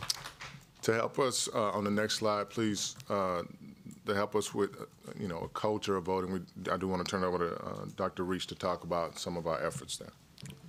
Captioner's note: applause